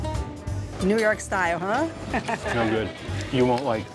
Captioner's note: laughs